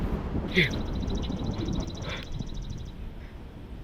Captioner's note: gasps